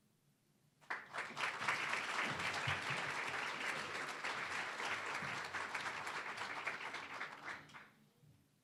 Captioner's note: applause